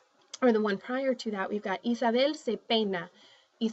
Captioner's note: speaking spanish